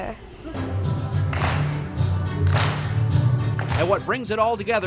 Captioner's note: students clapping